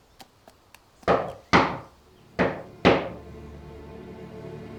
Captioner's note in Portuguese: batidas na porta